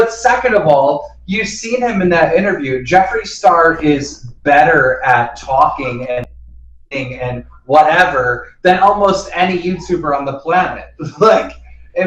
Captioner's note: laughs